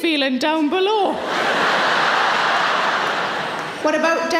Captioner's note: audience laughing